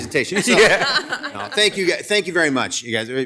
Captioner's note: attendees laughing